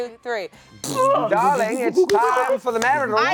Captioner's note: all make random noises